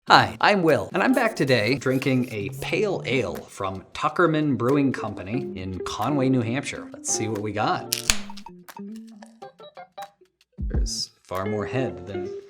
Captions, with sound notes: - Hi, I'm Will, and I'm back today drinking a ` from Tuckerman Brewing Company in Conway, New Hampshire. Let's see what we got. (lid clicks) (light music)